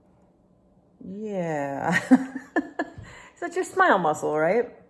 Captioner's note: laughing